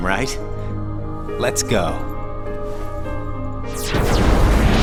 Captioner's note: explosion